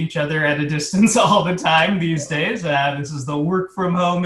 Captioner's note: laughs